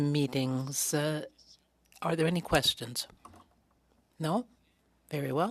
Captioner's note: speaking French